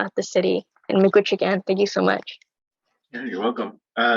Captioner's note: speaking in foreign language